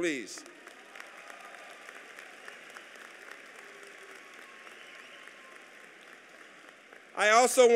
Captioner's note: applause